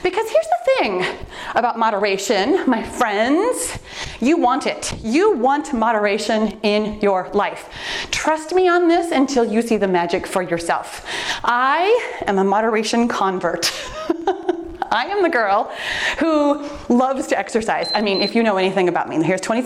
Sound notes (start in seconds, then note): 13.2 laughs; 17.8 timer beeps